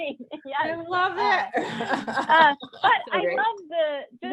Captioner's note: panelists laughing